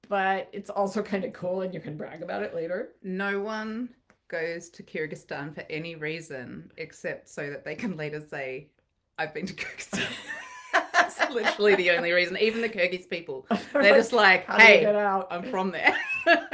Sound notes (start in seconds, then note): 10.0 laughing